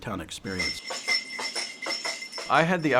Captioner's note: horse tacking sound effects